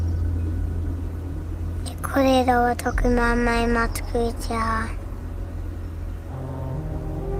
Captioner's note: non-english speech